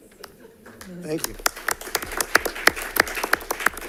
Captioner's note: applause